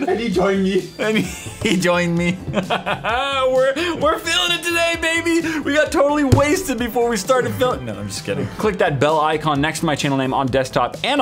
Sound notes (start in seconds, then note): 1.0 laughs